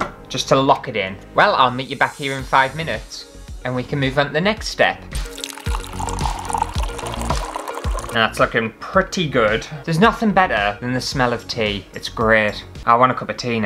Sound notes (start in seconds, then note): 5.1 tea Pouring